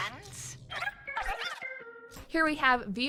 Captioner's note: robot chirps